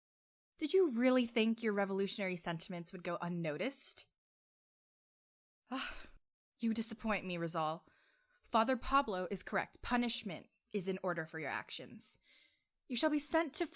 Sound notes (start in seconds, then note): 5.7 sighs